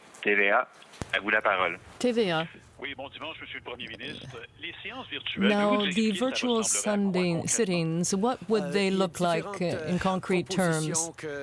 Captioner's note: speaking french